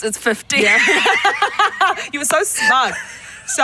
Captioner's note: both laughing